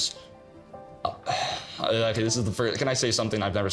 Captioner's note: stammering